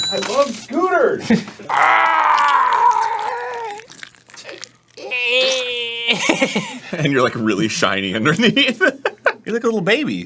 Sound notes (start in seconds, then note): 1.6 quietly screeches